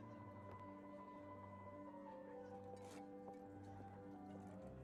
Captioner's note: none